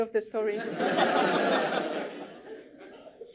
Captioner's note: laughter